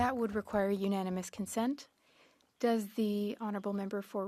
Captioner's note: speaking French